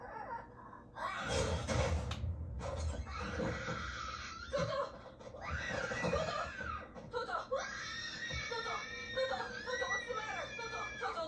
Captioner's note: door slammed shut as toto came screaming in terror; toto kept screaming in terror